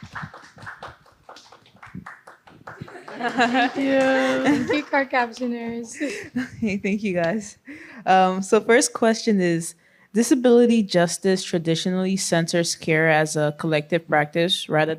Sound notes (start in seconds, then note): 2.8 applause and laughter; 5.9 laughter